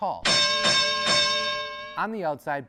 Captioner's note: bell clanging